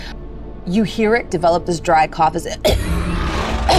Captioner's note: coughs